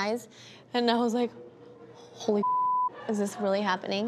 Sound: beep

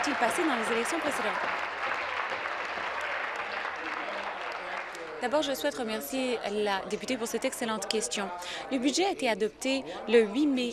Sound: applause

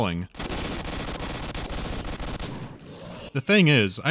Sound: rapid gunfire

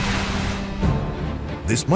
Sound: excavator working noisily

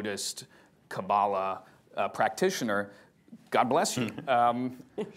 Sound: laughter

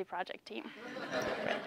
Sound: laugh

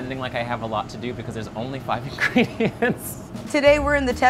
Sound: laughing

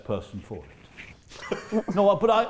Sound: chuckling

